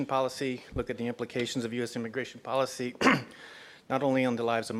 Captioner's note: cough